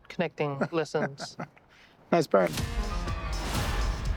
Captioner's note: chuckling